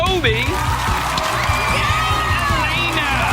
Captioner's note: cheering